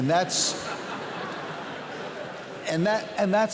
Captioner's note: laughter